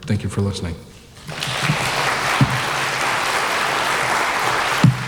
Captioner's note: audience applauding